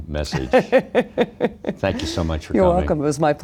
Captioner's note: laughs